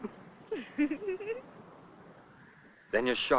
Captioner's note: laugh